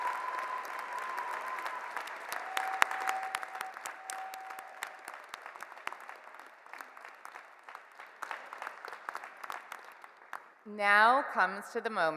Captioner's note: cheers and Applause